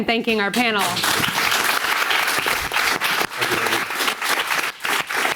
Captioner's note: audience applauding